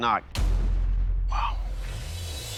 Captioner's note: whispers